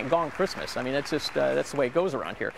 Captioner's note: applause